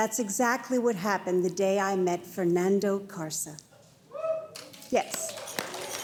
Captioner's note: audience cheering